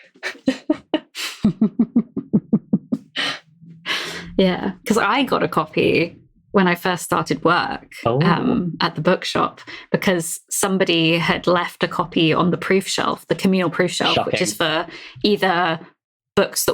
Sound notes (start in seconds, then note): 3.5 laughs